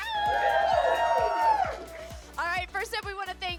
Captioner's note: all cheering